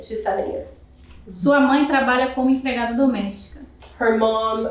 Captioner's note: speaking portuguese